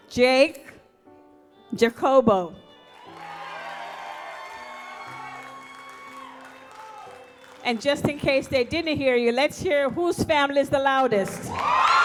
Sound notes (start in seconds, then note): 2.8 audience applauds